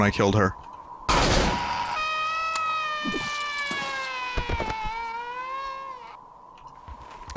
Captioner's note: terrifying wail